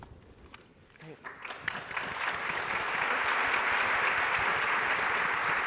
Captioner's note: applause from the audience